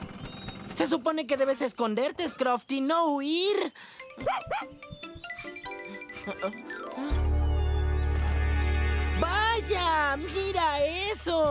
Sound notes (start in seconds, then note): 4.2 barking